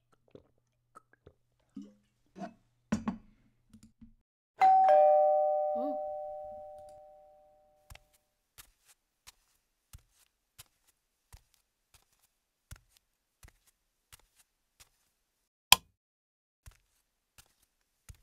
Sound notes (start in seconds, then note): 4.6 door bell rings